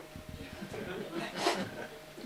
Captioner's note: laughter